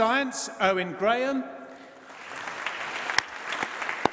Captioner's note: applause